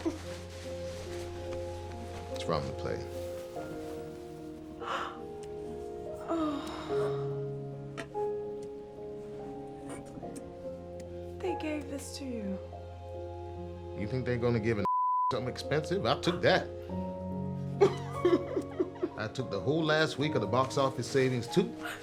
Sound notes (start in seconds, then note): 4.4 gasping